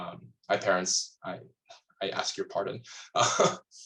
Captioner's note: laughs